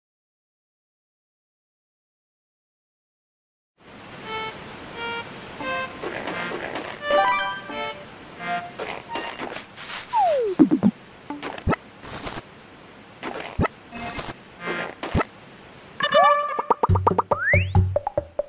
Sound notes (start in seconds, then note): 3.8 waterfall sound; 7.0 completion sound; 8.8 footsteps